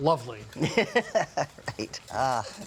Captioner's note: laughs